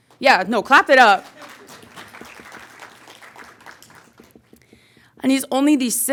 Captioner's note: audience clapping